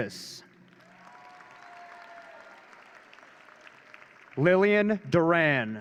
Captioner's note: audience cheering